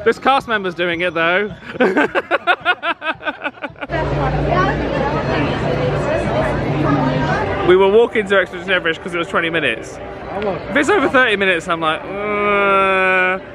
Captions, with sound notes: - This Cast Member's doing it though. (laughs) (guests chatting) We were walking to Expedition Everest 'cause it was 20 minutes. If it's over 30 minutes, I'm like, uh...